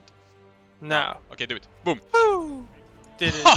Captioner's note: hahah; boooo